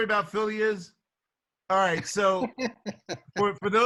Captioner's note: laughs